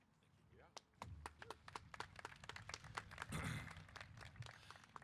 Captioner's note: applause